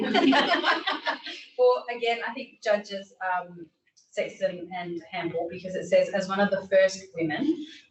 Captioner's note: laughter